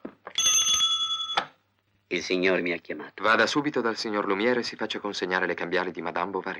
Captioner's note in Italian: campana